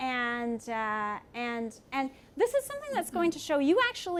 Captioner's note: none